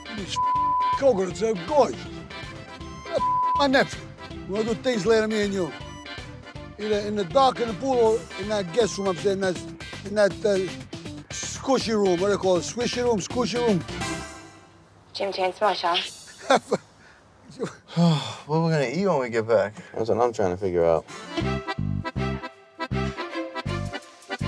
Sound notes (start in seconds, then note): 0.3 beep; 3.1 beep; 15.1 recorded voice from doll plays; 16.2 laughs; 17.5 sighs; 21.2 classic Italian music